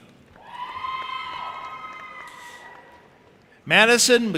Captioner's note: audience applauding and cheering